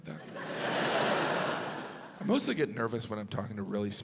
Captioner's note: audience laughs